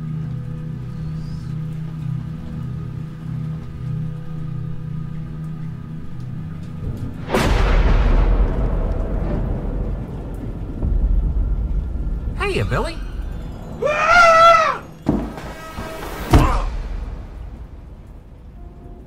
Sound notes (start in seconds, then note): 0.5 spooky music; 7.7 dramatic music; 7.7 thunder rumbling; 13.8 Will screaming; 16.2 dramatic music